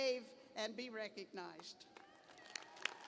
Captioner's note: applause